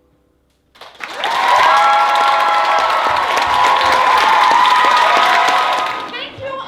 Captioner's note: applause